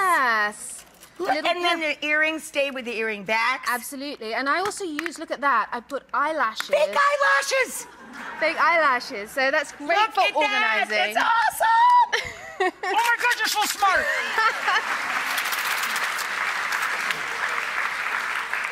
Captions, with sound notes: Yes. And then the earrings stay with the earring backs. Absolutely, and I also use, look at that. I put eyelashes- Fake eyelashes! (laughter) Fake eyelashes, so it's great for organizing. Look at that, that's awesome! Oh my gosh, you're so smart! (applause)